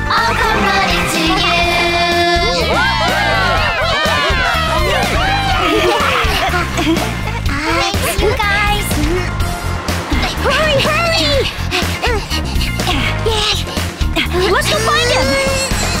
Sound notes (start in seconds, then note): 3.0 cheers from audience; 5.8 giggles